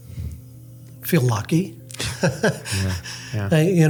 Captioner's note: laughs